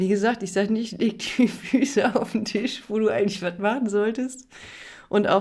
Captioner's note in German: gelächter